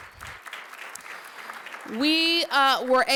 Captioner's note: applause